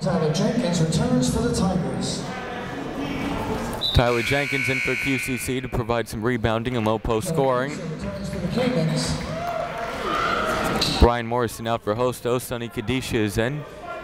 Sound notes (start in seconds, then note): 9.2 cheering